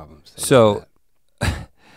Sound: chuckles

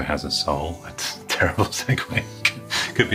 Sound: chuckles

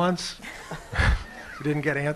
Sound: laughter

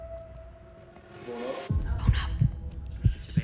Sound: multiple voices

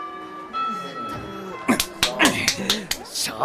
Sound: someone slapping themselves awake

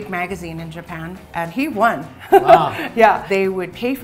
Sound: laughs

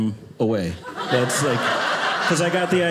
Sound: audience laughing

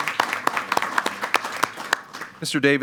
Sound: applause

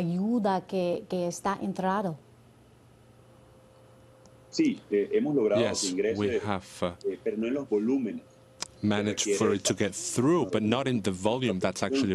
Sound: speaking spanish

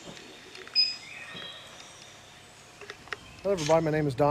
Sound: remote beeps

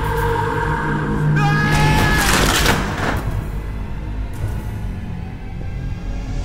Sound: Ryan yelling

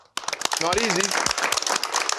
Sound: audience applauding

